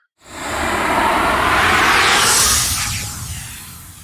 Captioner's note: air whooshes